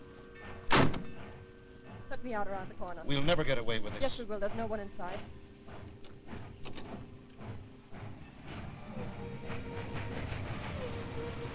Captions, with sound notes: (car door slamming) Let me out around the corner. - We'll never get away with this! - Yes, we will, there's no one in sight. (train chugging)